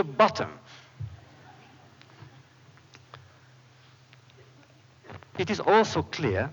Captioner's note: laughter